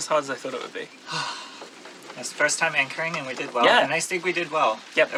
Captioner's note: relieved sigh